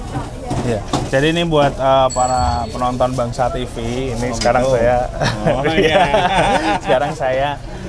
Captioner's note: laughs